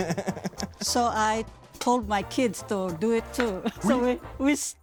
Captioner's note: giggling; laughs